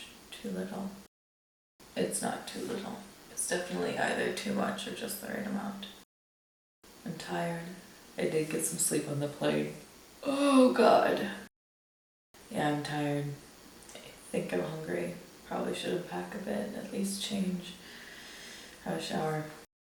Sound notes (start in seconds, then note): 10.2 yawns